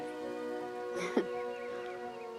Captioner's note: chuckles